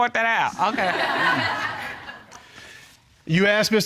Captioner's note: audience laughs